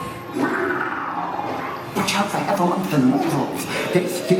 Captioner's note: growls